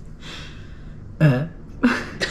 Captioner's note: evil noise